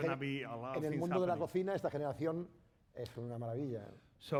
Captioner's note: speaking spanish